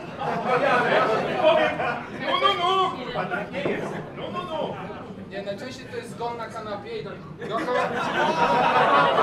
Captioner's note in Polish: Ludzie się śmieją i śpiewają